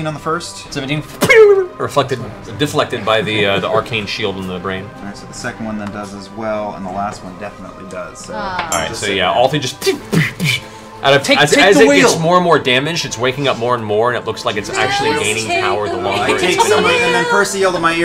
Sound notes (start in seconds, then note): 0.8 ricochet sound; 9.6 ping, ping, ping